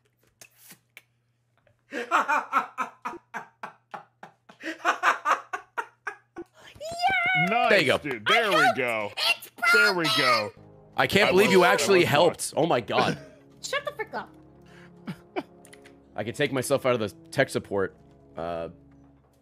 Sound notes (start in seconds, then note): 1.9 laughs